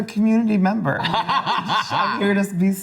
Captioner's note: laughs